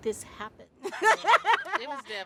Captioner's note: laughing